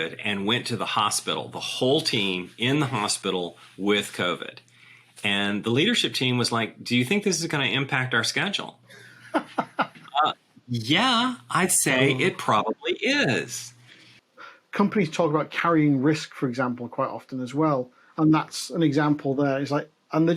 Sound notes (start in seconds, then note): 9.0 laughs